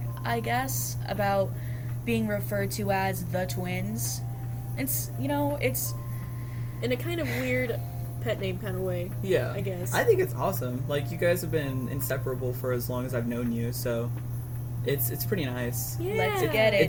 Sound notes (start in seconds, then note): 7.8 sighs